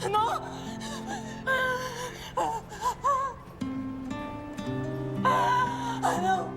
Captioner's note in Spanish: Solloza